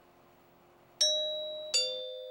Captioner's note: doorbell rings